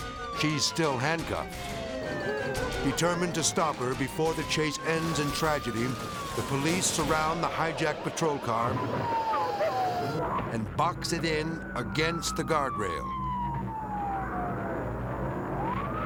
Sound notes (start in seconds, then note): 1.4 sirens blaring; 8.8 sirens blaring; 12.7 sirens blaring